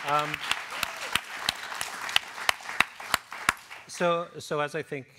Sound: applause

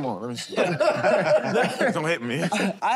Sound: laughter

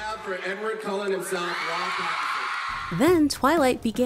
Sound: cheering

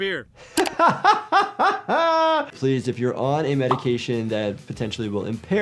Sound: laughing

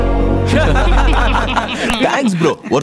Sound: laughs

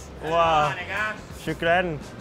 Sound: speaking in foreign language

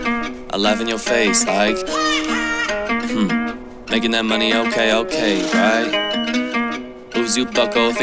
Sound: ha , ha

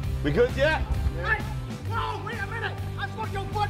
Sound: shouting

